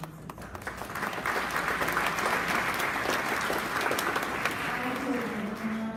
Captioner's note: applause